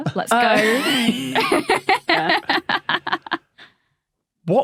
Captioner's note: laughs; wheezes